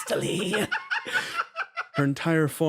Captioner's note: laughs